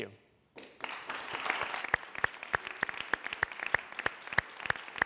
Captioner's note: applause